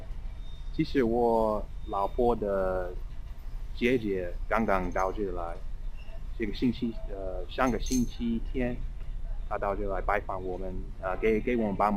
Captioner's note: mandarin